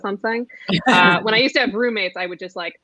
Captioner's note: laughs